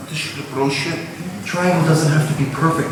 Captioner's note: speaking in a foreign language